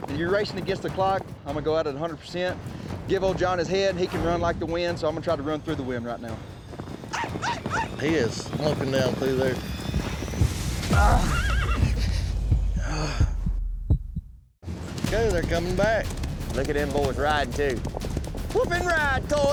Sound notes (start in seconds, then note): 10.2 fast hoofbeats; 11.7 big thud, groans